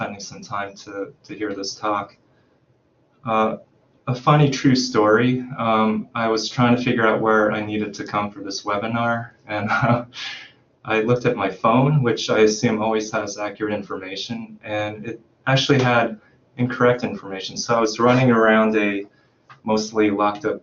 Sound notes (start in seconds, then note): 9.5 chuckles